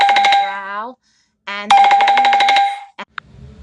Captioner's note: phone rings